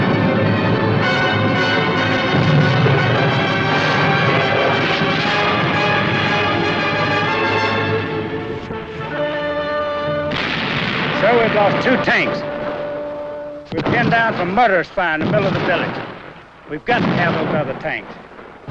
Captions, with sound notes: [gun shots] [explosions] - Sir, we've lost two tanks. We've been down some mortar fire in the middle of the village. We've got to have those other tanks.